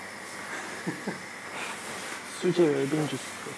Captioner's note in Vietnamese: Cười